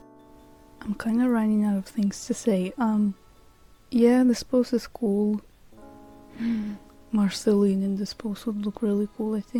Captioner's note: gasp